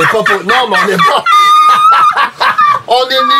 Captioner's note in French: rires